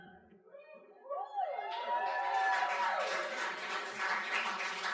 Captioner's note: crowd cheering